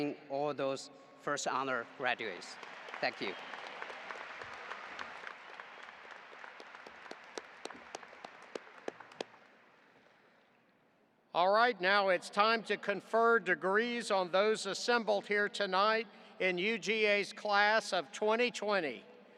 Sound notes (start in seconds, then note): 2.0 audience applauding